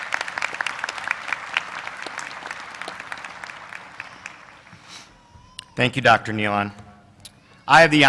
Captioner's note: applause